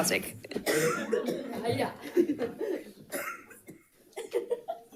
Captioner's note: light chatter